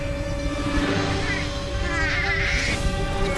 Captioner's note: exclaims in panic